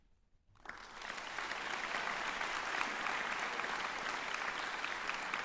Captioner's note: applause